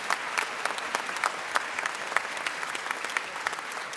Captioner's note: applause